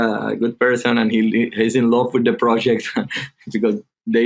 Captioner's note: chuckling